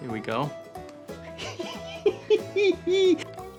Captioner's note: laughing